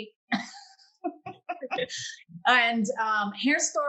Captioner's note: panelists laughing